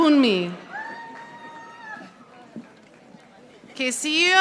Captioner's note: audience applauding